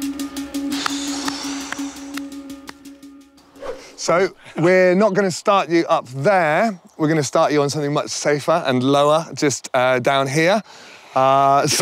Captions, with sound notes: (heavy sigh, clapping) (music fades) So, we're not going to start you up there. We're gonna start you on something much safer and lower just down here.